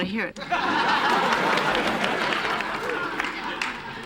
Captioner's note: laughter